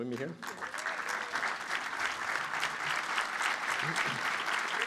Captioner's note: applause